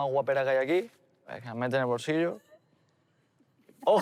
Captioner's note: laughs